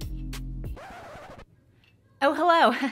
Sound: scratching

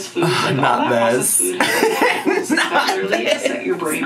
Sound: laughs

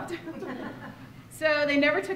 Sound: laughter

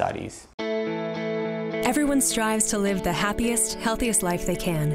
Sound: voiceover

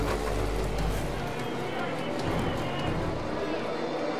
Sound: engine buzzes; men chattering; suspenseful music

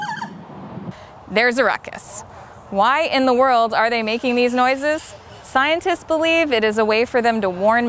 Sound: lemurs howling

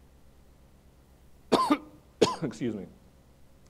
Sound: coughs

